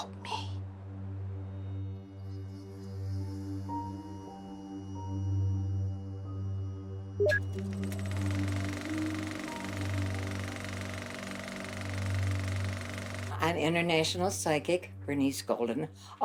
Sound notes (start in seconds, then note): 1.8 tense music; 7.2 beeping; 7.5 camera clicks